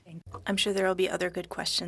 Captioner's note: speaking French